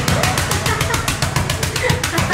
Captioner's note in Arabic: مجموعة تضحك